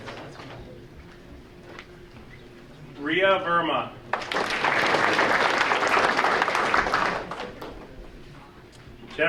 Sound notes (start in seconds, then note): 4.1 audience applauding